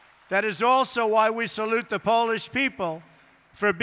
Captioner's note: applause